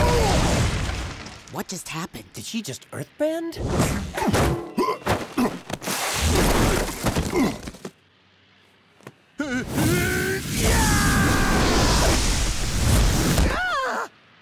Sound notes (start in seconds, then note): 4.4 groaning; 9.1 grunting; 13.1 groaning